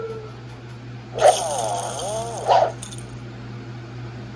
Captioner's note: Martin groans